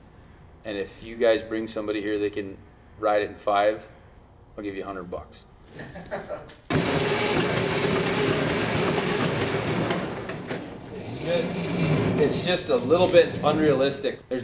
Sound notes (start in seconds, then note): 5.7 videographer laughs; 6.7 engine whirs